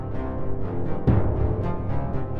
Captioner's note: ominous cello music; buzzing turns into ominous cello music; boom